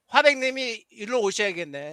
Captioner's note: non-english speech